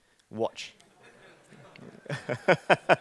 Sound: laughing

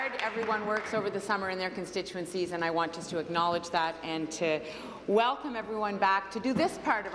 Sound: applause

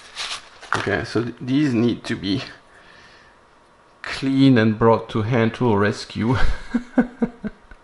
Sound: laughter

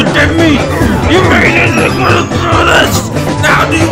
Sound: grunting

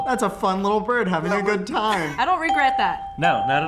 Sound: chuckles

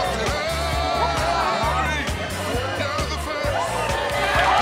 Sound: cheers and applause

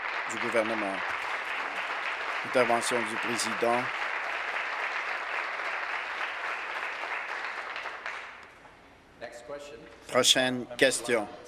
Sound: applause

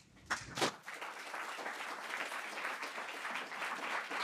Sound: audience applauding

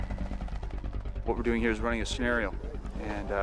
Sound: voiceover

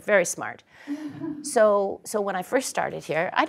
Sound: laugh

